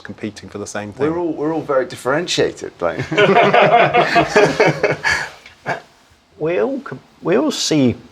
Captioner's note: laughs